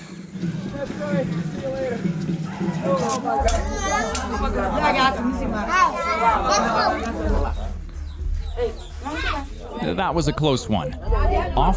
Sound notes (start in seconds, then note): 4.7 women speaking foreign language